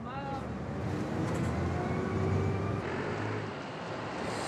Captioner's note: bus engine whirrs